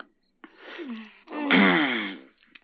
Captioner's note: both moaning